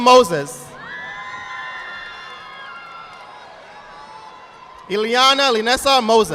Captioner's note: audience applauding